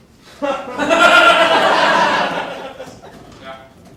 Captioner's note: audience laughing